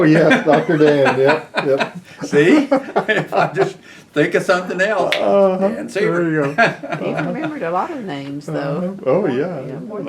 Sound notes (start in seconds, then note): 4.9 snaps fingers; 6.0 laughter